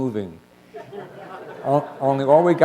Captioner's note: chuckle